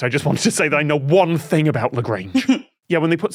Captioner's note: snickers